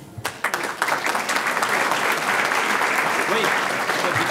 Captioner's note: audience applauding